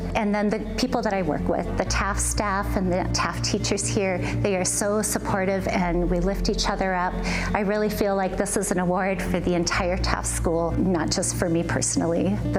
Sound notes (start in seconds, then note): none